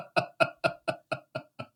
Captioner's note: laughing